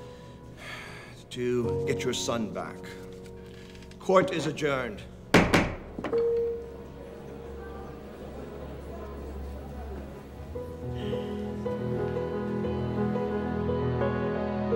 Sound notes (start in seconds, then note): 5.3 gavel bangs; 6.3 dramatic music